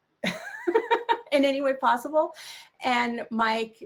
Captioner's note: chuckles